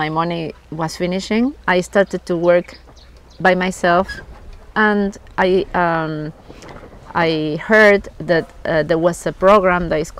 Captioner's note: woofing